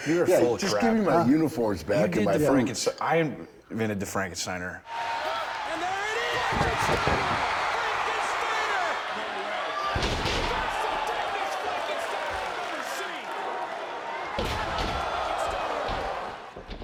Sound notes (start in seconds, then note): 5.0 crowd cheering; 9.0 crowd cheering; 10.1 mat thumping; 13.8 crowd cheering